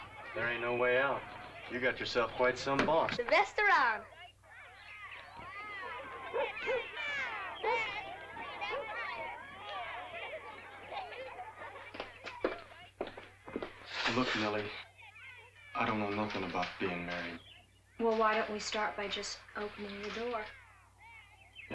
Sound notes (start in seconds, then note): 5.7 dog barks; 6.2 children chatter